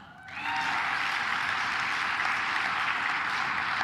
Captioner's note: claps